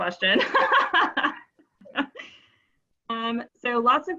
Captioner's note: laughing